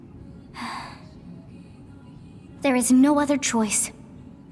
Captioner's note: sigh